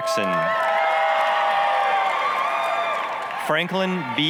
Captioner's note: applause, cheering